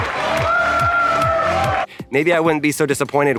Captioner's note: crowd cheering